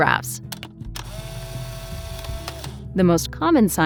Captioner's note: camera whirring